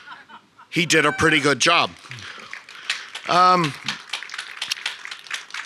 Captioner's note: audience applauds